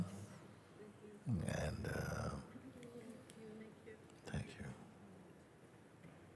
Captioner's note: Stimmen im Publikum